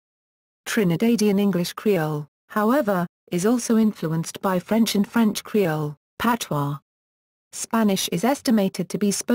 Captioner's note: patois